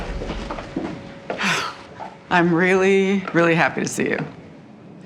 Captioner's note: sighs